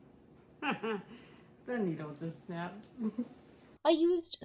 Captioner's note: laughs; laughs again